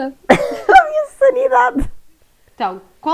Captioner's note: laughs